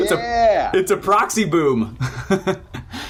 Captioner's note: chuckles